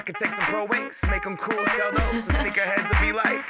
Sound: chuckles

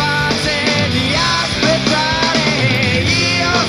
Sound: radio playing

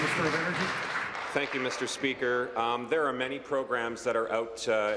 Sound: applause

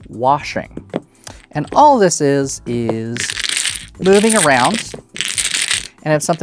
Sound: dominoes clattering

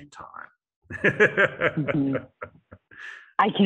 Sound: laughter

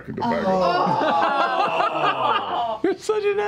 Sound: laughter and groaning

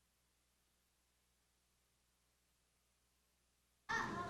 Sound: silence

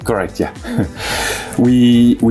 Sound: chuckling

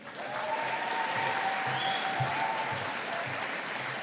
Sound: audience applauding

